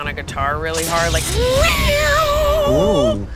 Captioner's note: imitates guitar